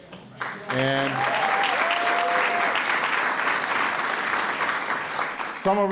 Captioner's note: cheers, applause